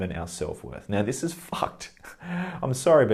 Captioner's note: laughed